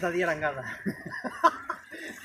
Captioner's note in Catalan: Riu